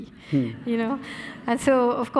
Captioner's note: audience laughing